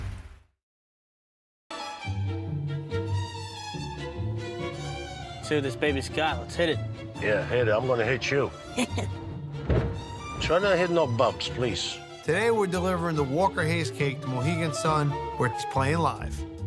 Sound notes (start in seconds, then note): 3.4 suspenseful orchestral music; 8.8 laughs